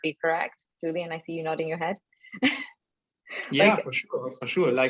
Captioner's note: chuckling